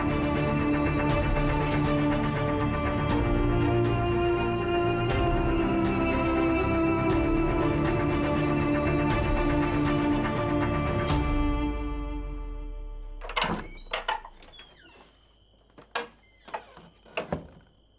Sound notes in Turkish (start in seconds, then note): 13.0 Kapı açılır; 17.1 Kapı kapanır